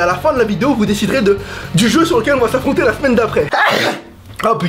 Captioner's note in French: éternuement